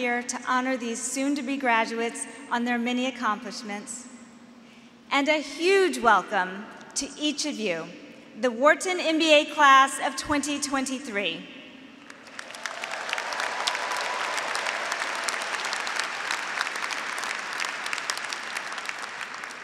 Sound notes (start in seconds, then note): 12.0 graduates applauding; 12.2 graduates cheering